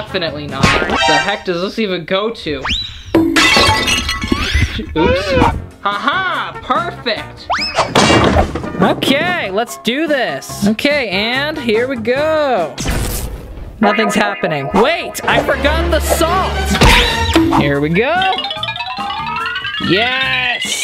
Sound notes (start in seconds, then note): 3.6 smashing; 13.0 electrocuting